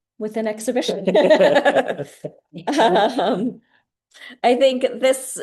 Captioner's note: laughing